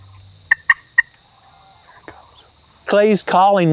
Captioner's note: whispering